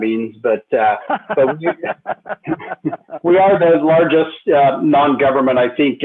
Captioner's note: laughter